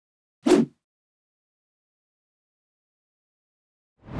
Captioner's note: air whooshing